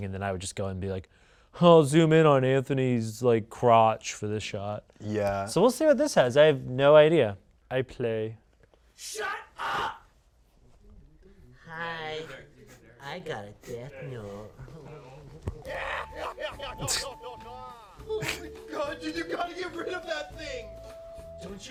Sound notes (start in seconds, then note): 15.9 laughs